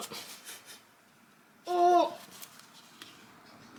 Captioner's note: struggle noises